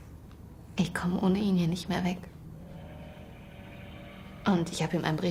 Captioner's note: ship horn blaring, distant